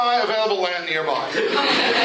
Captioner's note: laughter